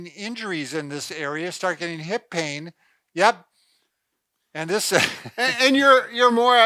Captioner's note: laughs